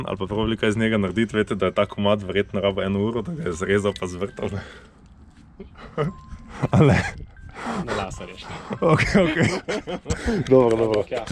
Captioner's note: laughs